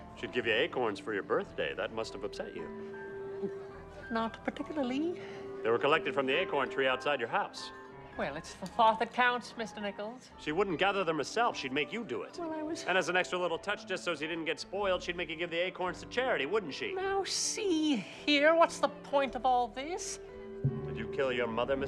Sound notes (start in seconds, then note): 3.4 gulps; 20.6 tense music plays